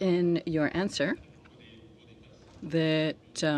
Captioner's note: speaking French